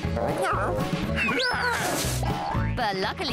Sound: screams

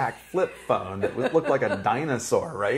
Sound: laughing

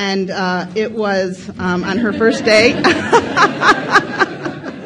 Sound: laughs

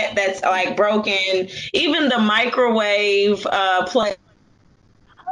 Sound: audio malfunction

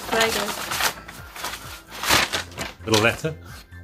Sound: envelope rustling

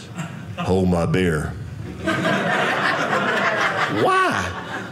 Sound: audience laughing

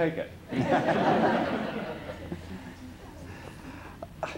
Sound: laughter

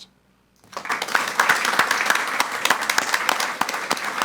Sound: audience applauds

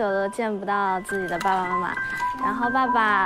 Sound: sample 2: The sound of a suitcase

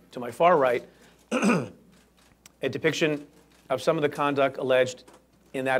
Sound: clears throat

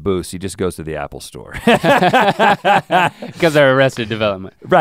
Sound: laughs

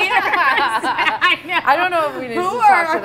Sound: laughing

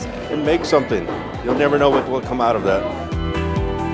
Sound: background hammering

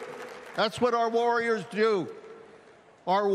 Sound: cheering

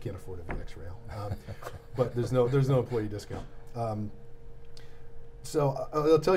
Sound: laughing

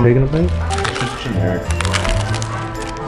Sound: taco shell crunches

